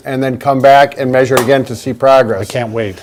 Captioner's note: hands clapping